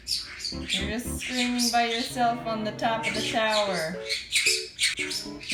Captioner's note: screeching